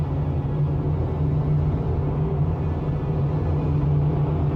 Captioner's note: plane engines rumbling